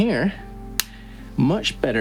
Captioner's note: window-breaker clicks